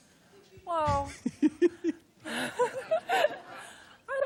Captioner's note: laughing